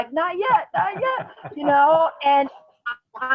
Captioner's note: laughs